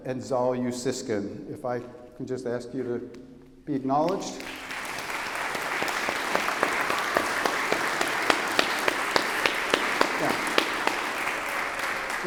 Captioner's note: applause